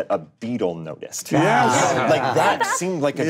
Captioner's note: group laughing